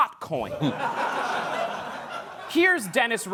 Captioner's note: laughter